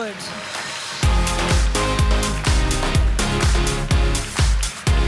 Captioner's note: applause